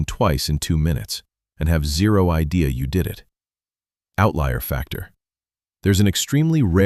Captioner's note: narrator voice, serious